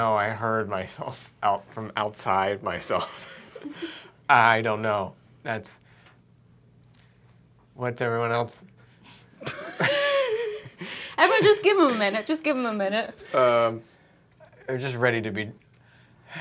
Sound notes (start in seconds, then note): 2.9 laughter; 9.4 laughter